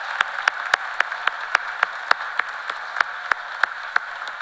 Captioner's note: cheers and applause